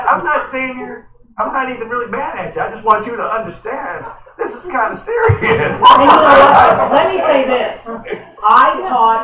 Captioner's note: laughter